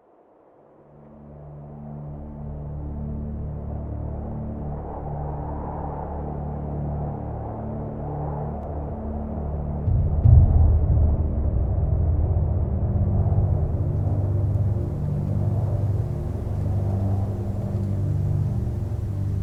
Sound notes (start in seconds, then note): 1.1 somber music; 4.9 wind howling